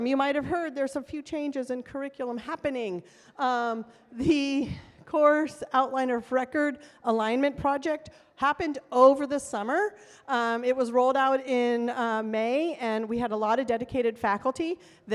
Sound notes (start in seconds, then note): none